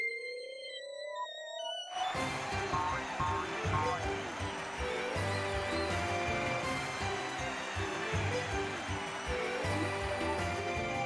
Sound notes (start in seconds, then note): 2.0 audience cheering